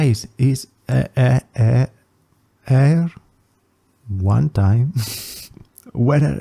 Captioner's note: laughs